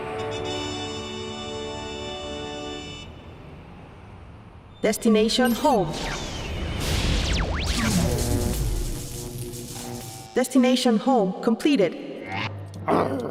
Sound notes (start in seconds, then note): 5.2 robot voice; 5.8 static noise; 12.6 growling